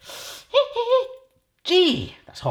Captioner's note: whimpers